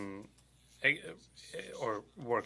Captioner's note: speaking in French